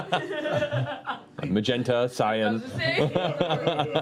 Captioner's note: laughs